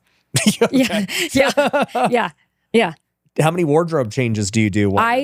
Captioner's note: laughing